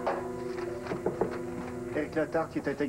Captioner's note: Il frappe à la porte